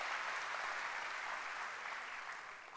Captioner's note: applause